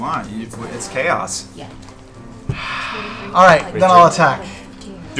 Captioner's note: sighs